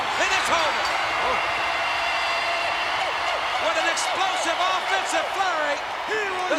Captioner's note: applause